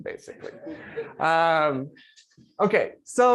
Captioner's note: laughter